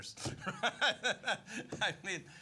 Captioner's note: laughing